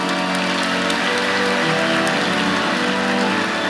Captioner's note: applause